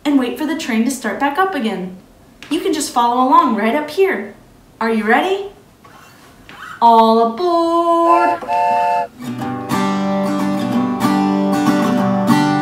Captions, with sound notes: and wait for the train to start back up again. You can just follow along right up here. Are you ready? All aboard! (train honks) (lively guitar music)